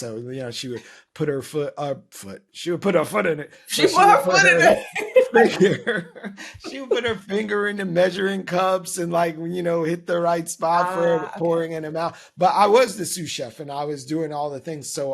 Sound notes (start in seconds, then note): 5.5 laughing